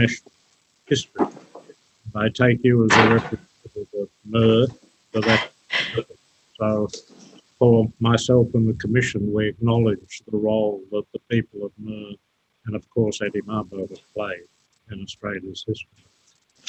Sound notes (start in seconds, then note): 3.3 audio distorted